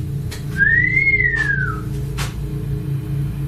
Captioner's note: whistling